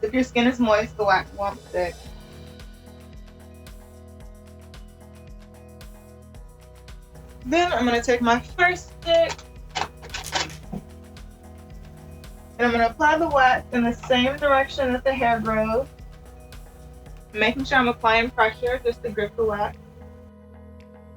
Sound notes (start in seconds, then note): 2.9 upbeat music; 9.7 tools clanking; 20.9 upbeat music